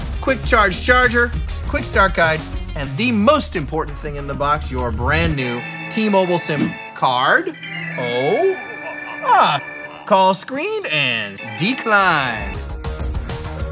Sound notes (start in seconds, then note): 6.7 phone Ringing